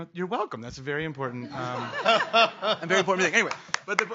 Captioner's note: laughing